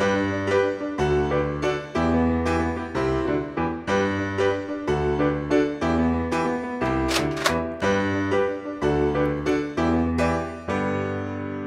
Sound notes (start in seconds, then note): 0.2 happy piano music; 6.8 loading gun